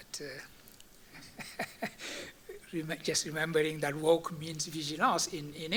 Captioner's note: chuckles